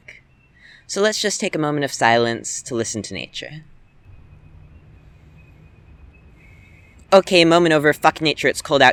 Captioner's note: breathe in